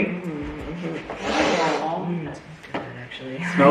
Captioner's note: sniffs